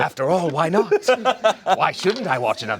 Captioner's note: laughs